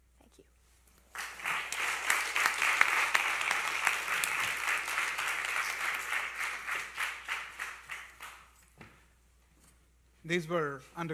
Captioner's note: applause